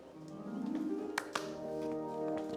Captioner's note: claps